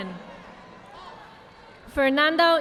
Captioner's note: audience applauding